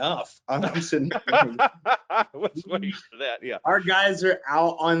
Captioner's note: all laughing